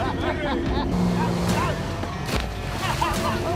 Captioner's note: laughing